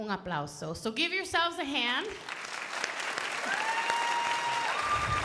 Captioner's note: crowd applauding